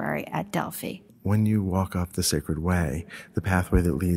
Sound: voiceover

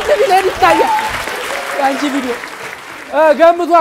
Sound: laughter and applause

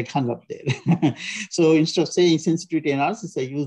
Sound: chuckles

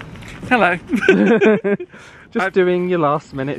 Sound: laughs

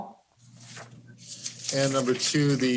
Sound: paper rustling

